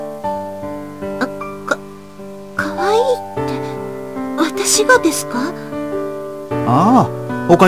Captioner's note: rain